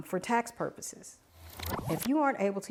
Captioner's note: screen whooshing